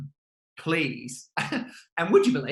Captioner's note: laughing